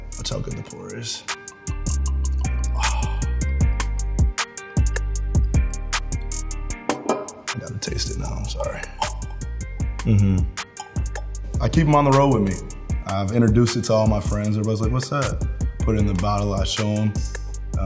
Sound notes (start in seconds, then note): 6.8 bottle clanks